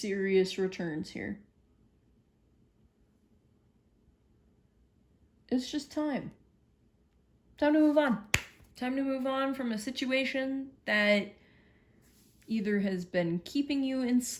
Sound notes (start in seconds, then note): 8.3 claps